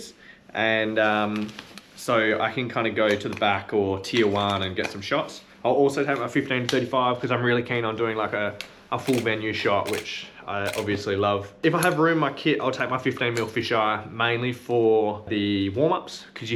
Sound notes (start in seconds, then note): 9.0 camera clicking